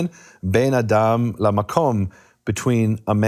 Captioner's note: speaking in foreign language